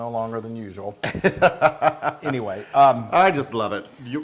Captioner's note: laugh